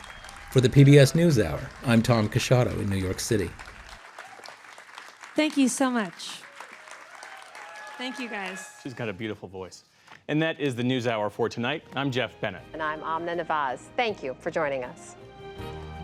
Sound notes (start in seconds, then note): 8.5 cheering and applause